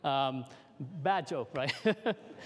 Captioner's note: laughter